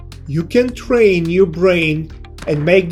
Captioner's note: gun firing